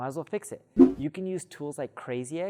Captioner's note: air whooshing